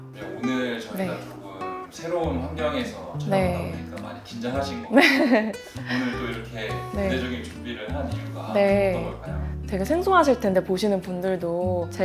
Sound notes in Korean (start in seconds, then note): 4.9 웃음